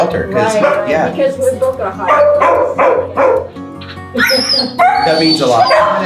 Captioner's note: laughs